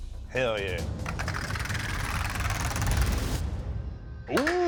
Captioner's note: wheel clacking